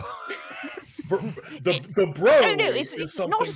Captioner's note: laughs